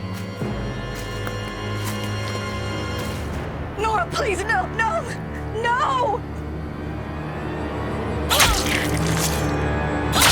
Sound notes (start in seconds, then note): 8.3 Mara grunts; 8.3 blood squirts; 8.3 knife plunges